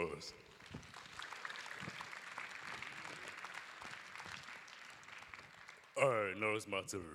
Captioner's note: applause